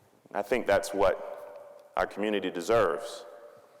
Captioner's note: none